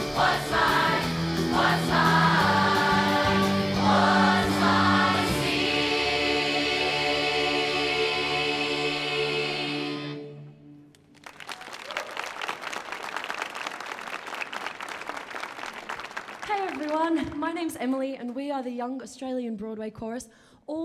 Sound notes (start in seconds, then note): 10.9 audience applauding